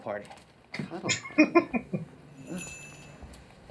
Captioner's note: laughing